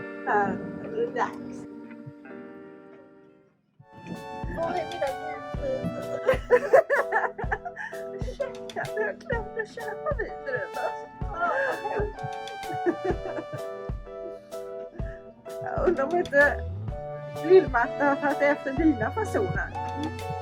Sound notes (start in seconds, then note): 6.1 funny overclass voice and laughter; 10.3 funny voice and laughter